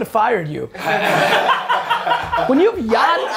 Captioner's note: group laughter